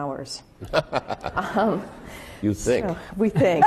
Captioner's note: laughing